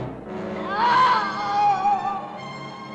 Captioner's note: scream